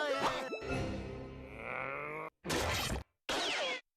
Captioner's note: grunting